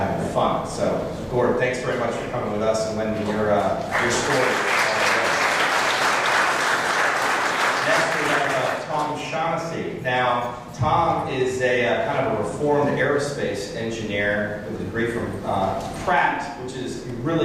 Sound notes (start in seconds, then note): 3.9 applause